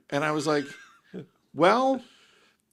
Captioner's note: laughing